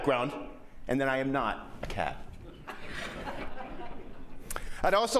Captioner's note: laughter